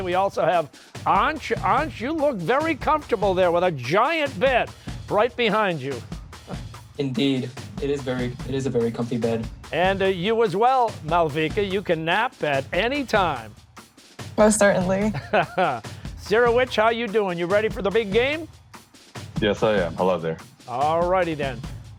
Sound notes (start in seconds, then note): 15.0 laughs